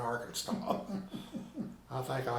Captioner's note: laughing